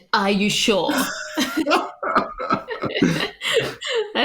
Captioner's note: laughs